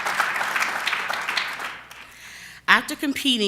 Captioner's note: applause